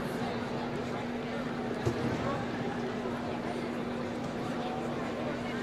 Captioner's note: none